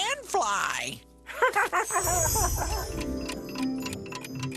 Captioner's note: clocks ticking